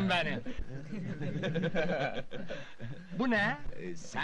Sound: laughing

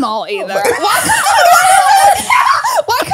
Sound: everyone laughs

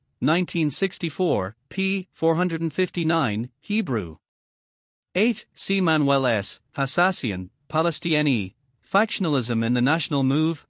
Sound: Hebrew

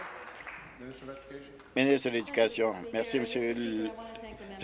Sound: applause

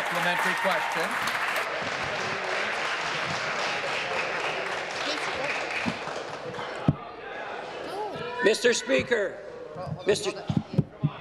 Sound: applause

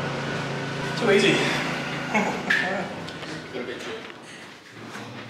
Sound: giggling

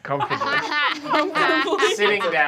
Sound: laughing

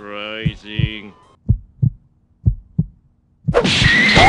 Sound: heartbeat sound continues

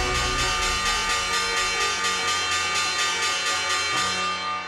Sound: bell ringing

